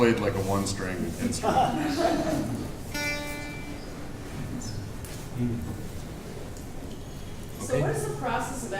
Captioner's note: chuckling